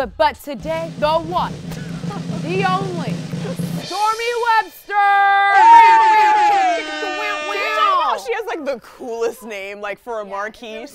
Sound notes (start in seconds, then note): 5.2 all cheering; 5.6 air horns